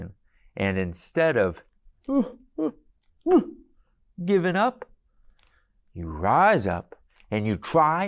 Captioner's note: crying noises